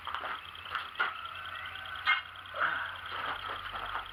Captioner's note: clank bang slam